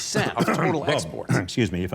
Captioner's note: coughing